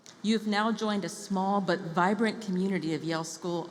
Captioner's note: none